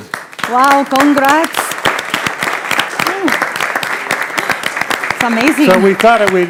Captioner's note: audience applauding